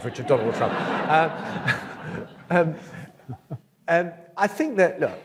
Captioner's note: audience laughs